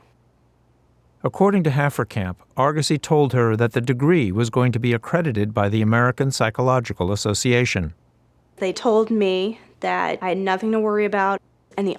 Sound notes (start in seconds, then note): none